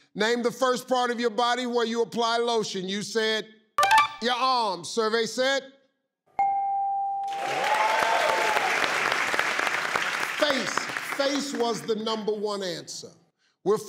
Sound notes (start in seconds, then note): 4.4 ding; 6.3 ding; 7.2 crowd applauding